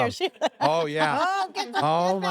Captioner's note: laugh